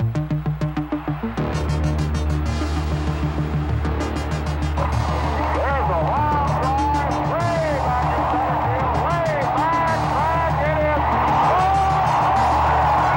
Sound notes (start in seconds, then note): 0.2 crowd cheering; 4.7 bat smacking